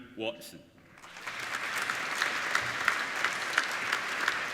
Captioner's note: applauding